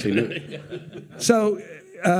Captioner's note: laughing